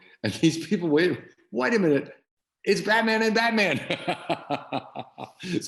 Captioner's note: laughing